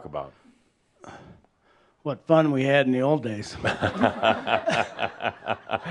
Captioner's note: Adamus chuckles